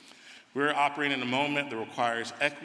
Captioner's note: none